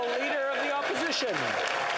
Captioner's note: applause